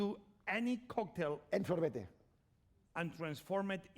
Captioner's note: speaking spanish